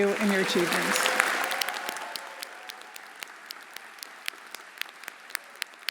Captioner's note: everyone applauding